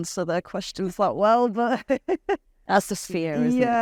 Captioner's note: laughs